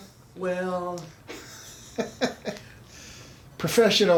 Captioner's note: chuckles